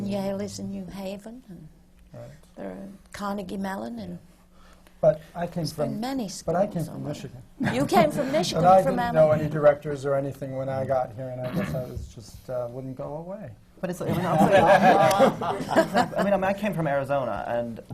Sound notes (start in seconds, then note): 14.0 laughter